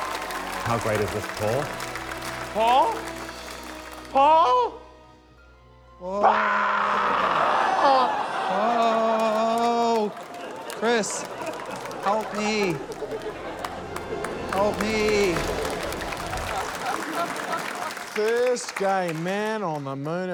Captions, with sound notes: - How great is this, Paul? Paul? Paul! - Oh! - Argh! - (LAUGHTER) - Oh! Chris. Help me. - (LAUGHTER, APPLAUSE) - Help me. - (APPLAUSE, LAUGHTER) - First gay man on the Moon.